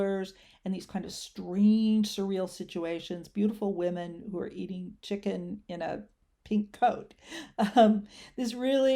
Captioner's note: chuckles